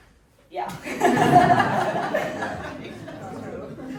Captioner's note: everyone laughing